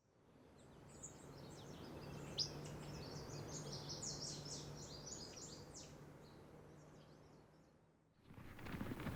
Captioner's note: birds singing; cattle running